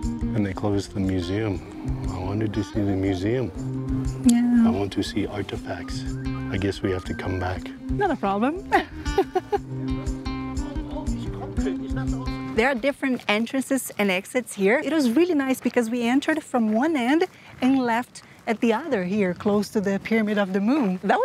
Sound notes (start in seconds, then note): 8.7 laughs